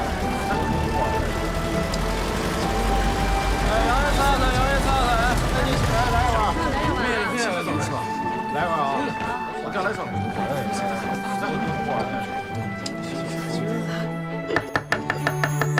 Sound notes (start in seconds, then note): 3.6 marketplace chatter